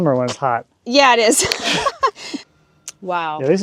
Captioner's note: chuckles